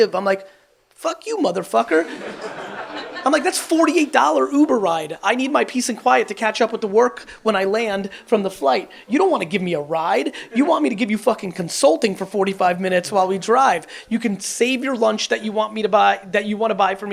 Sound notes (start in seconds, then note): 1.8 audience laughs